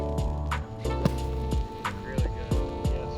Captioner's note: jazz music; golf club whacking